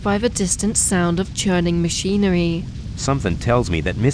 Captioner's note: a low hum